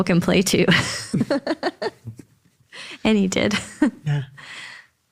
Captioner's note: laughs